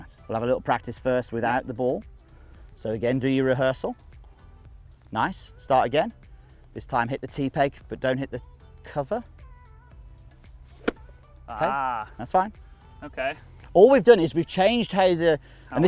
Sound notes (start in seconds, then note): 10.8 hitting sound